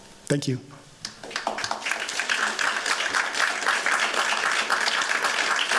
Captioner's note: applause